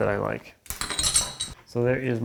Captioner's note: metal on desk ringing